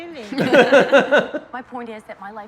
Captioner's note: both laugh